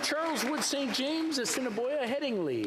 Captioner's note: applause